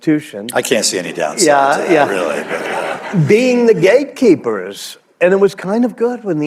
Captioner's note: laughter